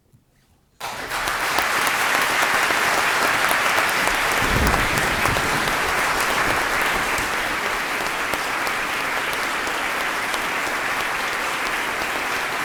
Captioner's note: applause